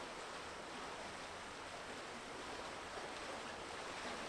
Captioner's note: water flowing